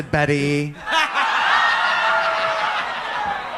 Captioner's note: audience laughs